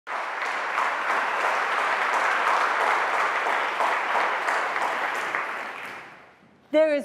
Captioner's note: applause